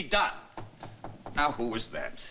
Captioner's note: knocking